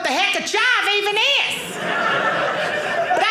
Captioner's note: audience laughing